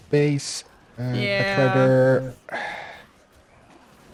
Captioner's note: sighs